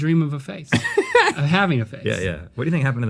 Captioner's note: laughs